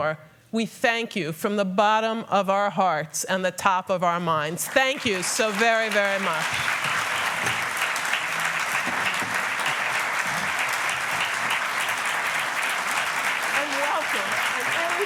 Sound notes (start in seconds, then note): 6.5 applause